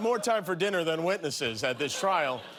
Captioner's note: laughter